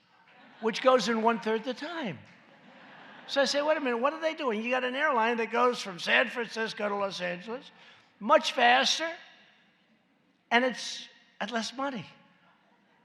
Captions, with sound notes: which goes in one-third the time. (laughter) So I said, “What a minute, what are they doing? You got an airline that goes from San Francisco to Los Angeles much faster, and it’s less money.